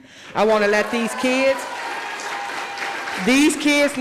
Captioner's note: audience applauding